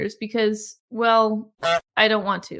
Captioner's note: goose honk